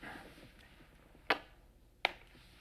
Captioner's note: kiss